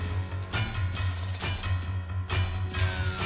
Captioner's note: drum; glass break; drum